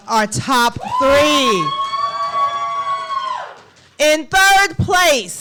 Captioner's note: applause